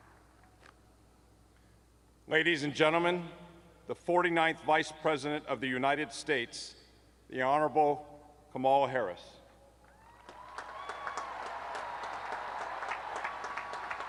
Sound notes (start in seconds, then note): 1.8 applause